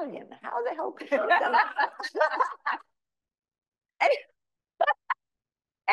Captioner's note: audience laughing; laughs; laughs